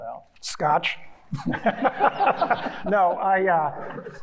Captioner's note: everyone laughing